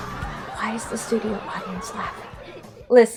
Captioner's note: studio audience laughing?; whispering